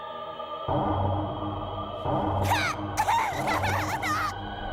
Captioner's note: cries